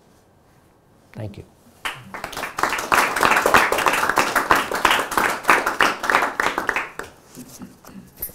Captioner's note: audience applauds